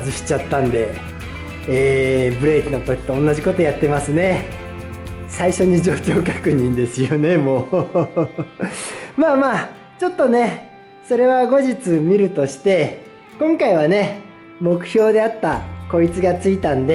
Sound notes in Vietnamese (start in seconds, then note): 12.9 cười